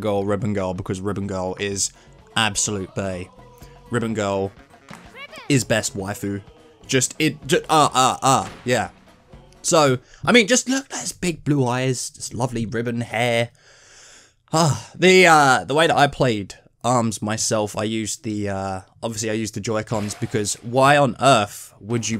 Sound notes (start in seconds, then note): 7.4 sex noises; 14.5 sigh